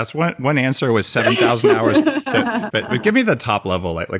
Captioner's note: laughing